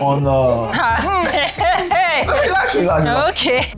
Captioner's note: laughs